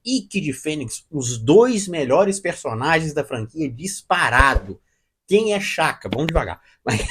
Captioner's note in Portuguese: risadas